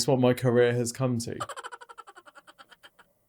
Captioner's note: laughing sound effect plays